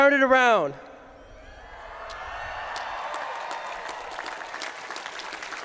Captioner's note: cheering